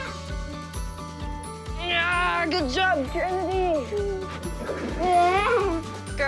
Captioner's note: laughs